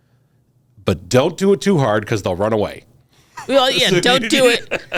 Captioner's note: laughs